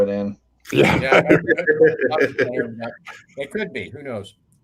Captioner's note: all laugh